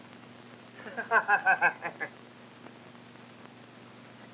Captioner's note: Benny laughs